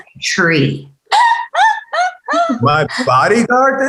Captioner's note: woman laughing